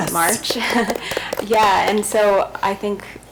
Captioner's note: group claps